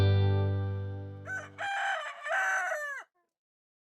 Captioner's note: cock crowing